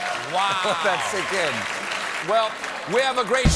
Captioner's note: laughter